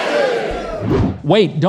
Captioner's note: airy woosh